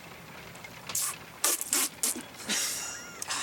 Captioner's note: spitting; laughing